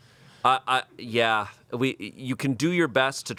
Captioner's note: none